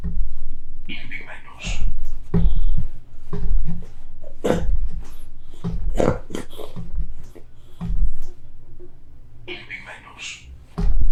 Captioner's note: achmet – artificial male voice